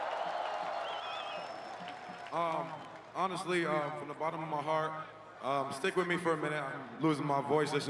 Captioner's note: cheering and Applause